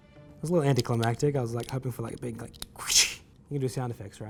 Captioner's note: imitates snapping sound